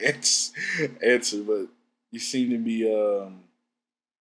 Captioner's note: laughs